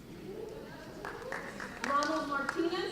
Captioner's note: applause